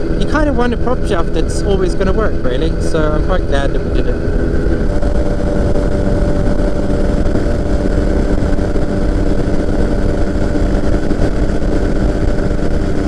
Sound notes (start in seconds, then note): 6.1 microlight engine roaring